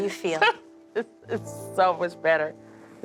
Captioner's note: laughing